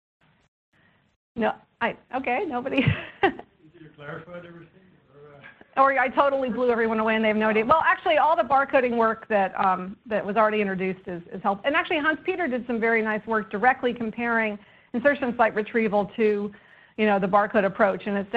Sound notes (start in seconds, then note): 2.8 chuckles